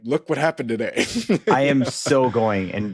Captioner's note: laughs